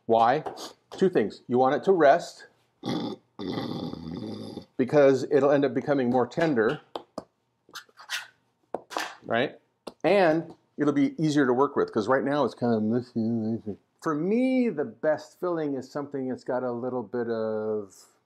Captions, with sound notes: Why? Two things. You want it to rest (snoring sound) because it'll end up becoming more tender. And it'll be easier to work with because right now it's kind of... For me, the best filling is something that's got a little bit of,